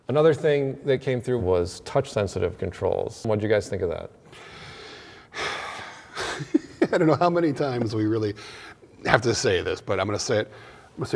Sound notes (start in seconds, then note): 4.4 sighs